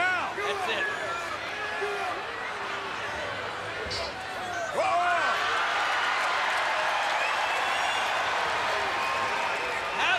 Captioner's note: applause